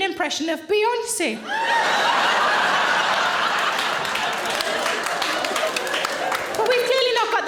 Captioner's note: audience laughing; audience applauds